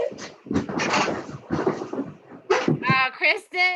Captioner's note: loud clatters